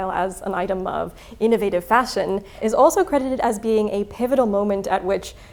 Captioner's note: none